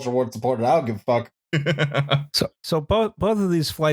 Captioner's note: laughs